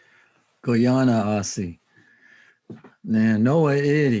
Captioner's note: speaking in Native language